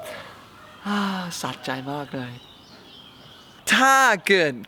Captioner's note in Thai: เสียงถอนหายใจ